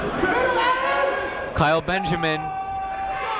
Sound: shouting

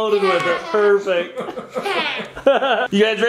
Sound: laughs

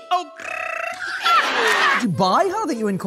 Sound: laughter

